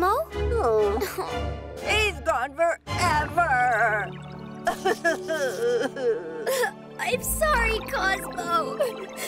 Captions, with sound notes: - He's gone forever (cries). - I'm sorry, Cozmo (cries).